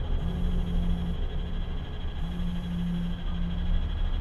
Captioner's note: phone vibrates noisily